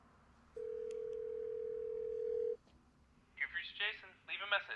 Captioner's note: phone ringing